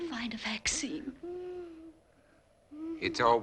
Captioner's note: Kathy wheezing